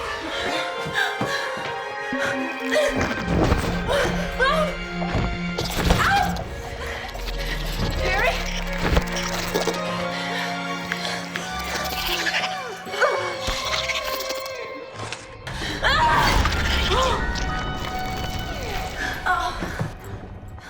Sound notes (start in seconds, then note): 0.1 suspenseful music; 11.5 puppet snarling; 17.4 suspenseful music